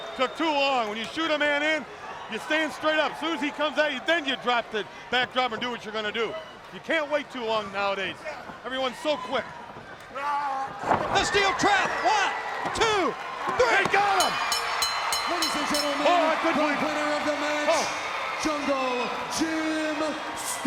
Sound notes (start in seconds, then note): 14.1 bell ringing; 15.3 crowd cheering